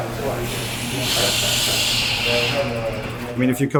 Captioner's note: machine hissing